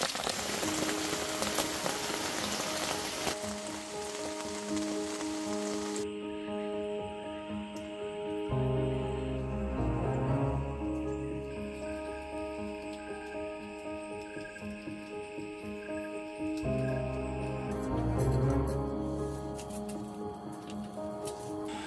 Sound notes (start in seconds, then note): 11.5 boiling water